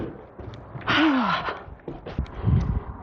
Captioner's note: sigh